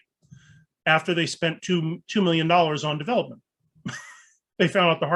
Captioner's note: chuckles